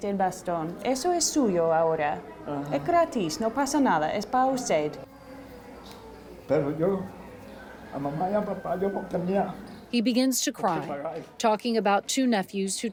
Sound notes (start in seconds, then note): 0.0 speaking in foreign language; 2.5 speaking in foreign language continues; 6.4 patient speaking in foreign language